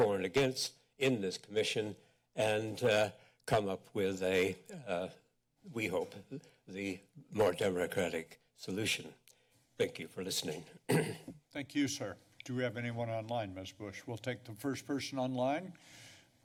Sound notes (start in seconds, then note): 10.8 clears throat